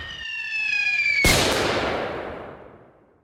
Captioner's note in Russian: Выстрел из миномёта, свист снаряда; Взрыв